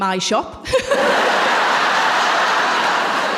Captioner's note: laughter